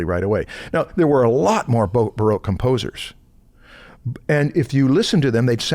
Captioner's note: none